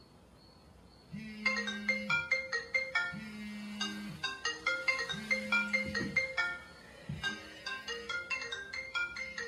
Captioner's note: Alex's phone rings